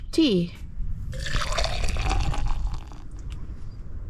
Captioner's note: slosh